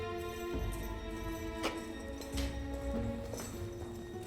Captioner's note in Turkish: Ayak sesleri ve anahtar sesleri